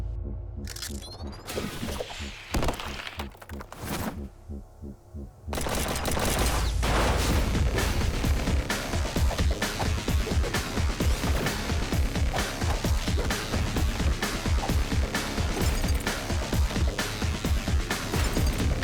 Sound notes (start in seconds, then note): 4.5 heavy bathing